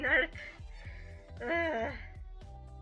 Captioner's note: groan